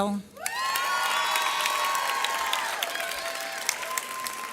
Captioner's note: audience cheers